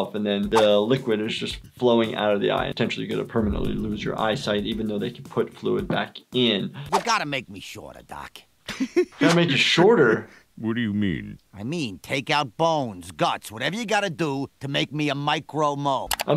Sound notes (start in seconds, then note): 8.6 laughs